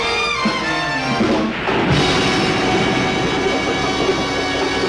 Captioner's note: jazzy orchestral music crescendos; waves crashing